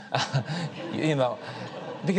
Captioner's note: audience laughs